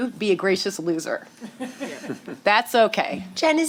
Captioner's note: chuckling